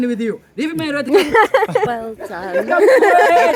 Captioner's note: laughter